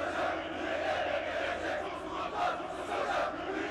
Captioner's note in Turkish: Hep bir ağızdan